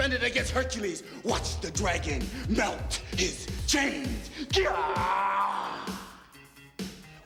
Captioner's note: snarls